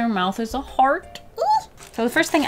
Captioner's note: excited squeal